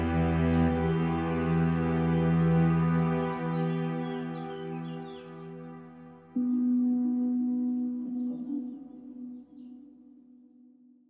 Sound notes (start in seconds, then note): none